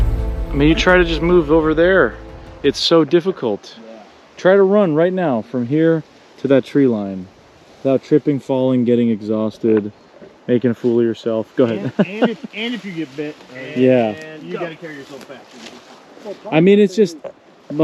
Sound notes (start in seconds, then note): 11.7 laughing